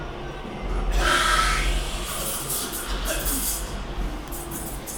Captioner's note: espresso machine hisses